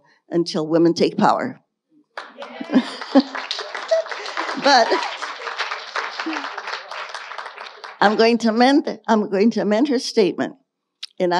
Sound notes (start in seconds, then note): 2.2 audience cheering and applauding; 2.2 chuckles